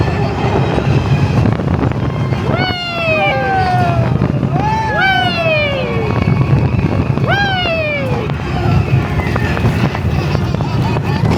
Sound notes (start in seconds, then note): 0.1 wind blowing; 3.1 riders hooting